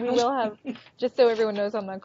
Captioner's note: both laughing